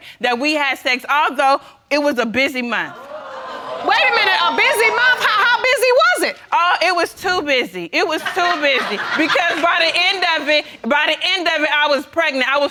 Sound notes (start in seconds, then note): 3.0 audience cooing; 8.2 audience laughing